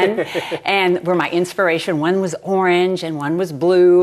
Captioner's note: laughs